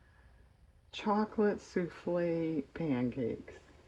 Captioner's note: none